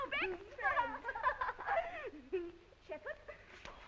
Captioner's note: girls giggling